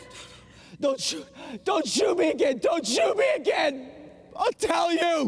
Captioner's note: sobbing